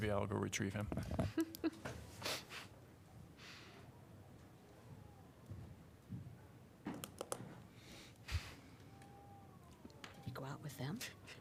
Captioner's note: laughter